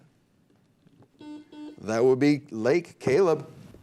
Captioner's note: buzzer beep